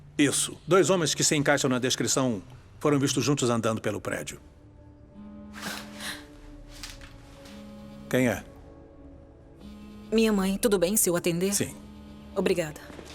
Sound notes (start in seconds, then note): 5.0 cell phone vibrating